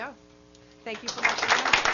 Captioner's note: audience applauding